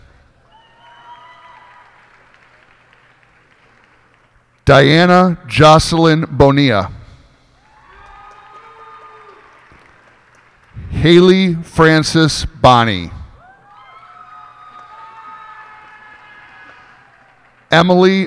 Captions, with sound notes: [cheers and applause] Diana Jocelyn Bonilla. [cheers and applause] Haylee Frances Bonney. [cheers and applause]